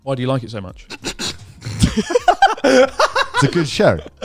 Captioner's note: all laughing